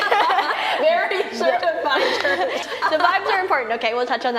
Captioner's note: laughing